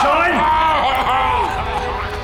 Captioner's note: Alfie screams